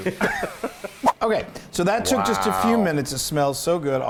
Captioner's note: laugh